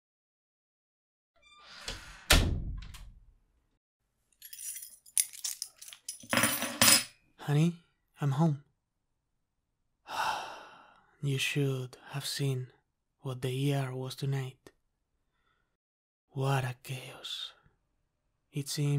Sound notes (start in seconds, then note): 1.4 door Closing; 10.0 sigh